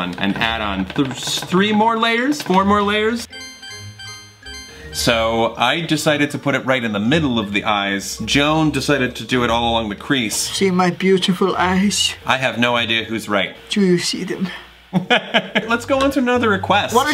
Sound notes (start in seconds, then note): 3.3 cartoon sound; 14.9 laughs